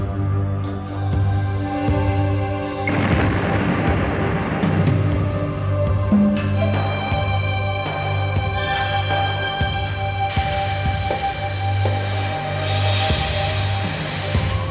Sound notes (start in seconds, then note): 2.8 explosion booming; 5.8 tense music continues